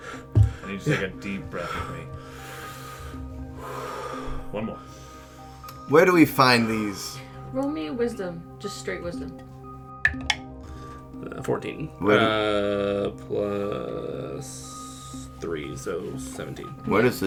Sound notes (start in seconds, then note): 1.7 breathe in and out in tandem; 5.0 inhale again; 9.7 die clacks